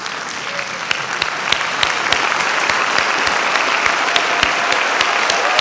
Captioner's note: audience cheering, applauding